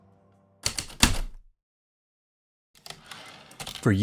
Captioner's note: heavy typewriter keystrokes, return slide